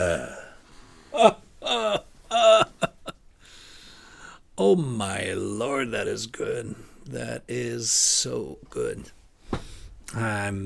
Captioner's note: laughter